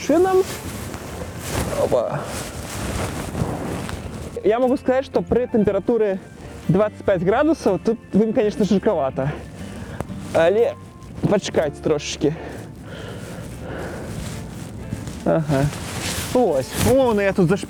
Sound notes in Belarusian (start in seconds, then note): 12.2 цяжкае дыханне